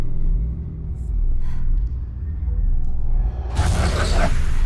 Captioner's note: bass tones pulsing ominously; breathing heavily; eerily whooshing